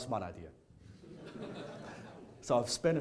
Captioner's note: audience laughing